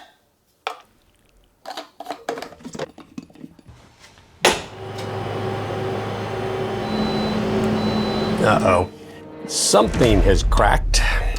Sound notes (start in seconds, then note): 1.6 jars tapping; 4.6 centrifuge humming; 7.7 alert beeping